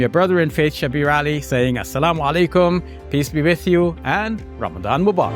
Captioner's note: speaks in Arabic